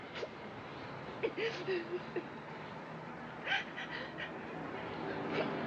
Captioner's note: Mrs. Cosick Weeping